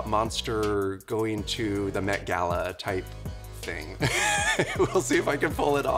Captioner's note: chuckles